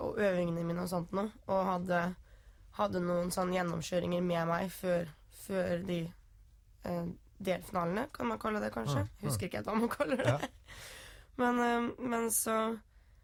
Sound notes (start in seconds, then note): 9.9 laughing